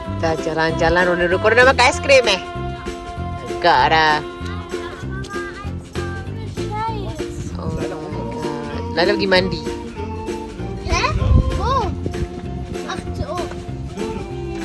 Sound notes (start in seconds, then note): 5.5 speaking German; 11.9 speaking German